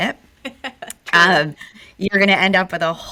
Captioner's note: laughs